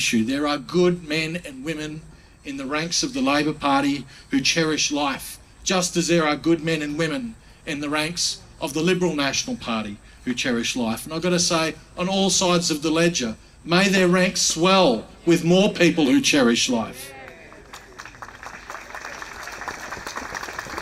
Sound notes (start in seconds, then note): 16.8 crowd mumbling in agreement; 17.2 applauding